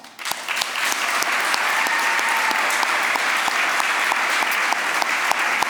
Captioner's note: applause, cheering; applause